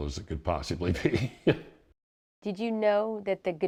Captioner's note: laughs; voiceover